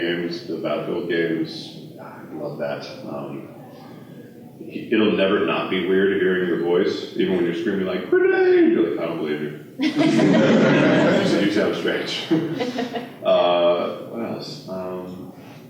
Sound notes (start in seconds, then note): 9.8 laughter